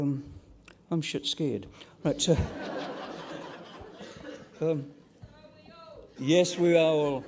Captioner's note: laughter